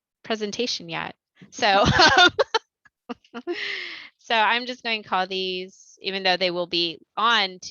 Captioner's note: laughter